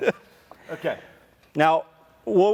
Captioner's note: laughing